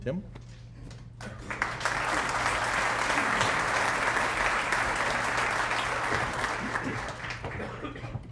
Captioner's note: applause